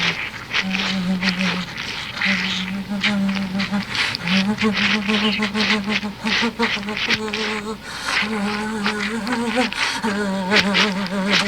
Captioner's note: mrs. x starts vibrating and moaning